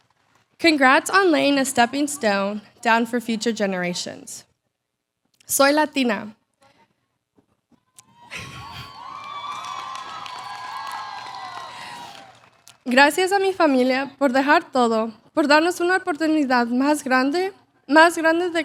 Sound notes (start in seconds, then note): 0.0 applause; 6.4 Spanish; 8.7 applause